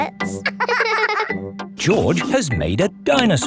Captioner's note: both laughing